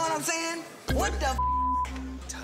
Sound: beep

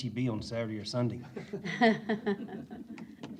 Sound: laughter

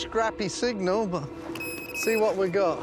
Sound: beeping

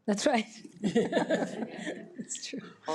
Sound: board members laugh

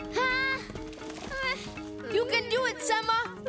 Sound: Sema yells; moaning

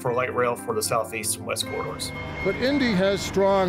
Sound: signal beeps

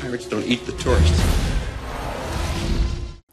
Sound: roaring

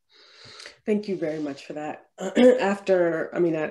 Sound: clears throat

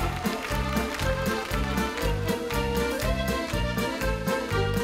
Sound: dancers cheering

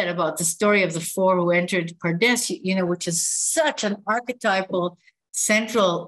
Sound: non-english speech

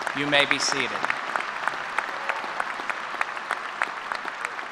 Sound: applause

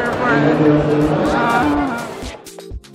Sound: whine

